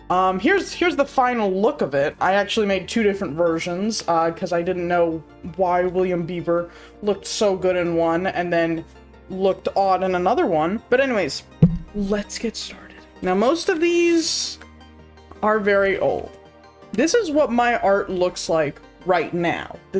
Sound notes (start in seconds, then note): 11.6 thud